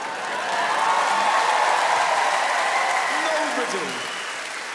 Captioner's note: audience cheering loudly